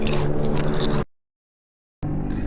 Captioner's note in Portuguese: Silêncio